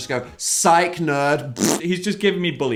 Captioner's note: blowing raspberry